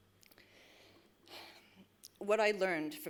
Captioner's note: breathes deeply